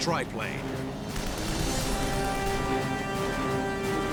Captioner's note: weapons firing, music playing